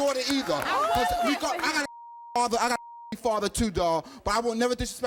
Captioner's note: beep